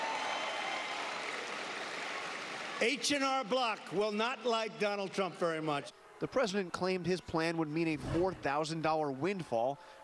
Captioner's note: applause